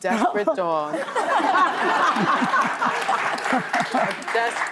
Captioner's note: audience laughing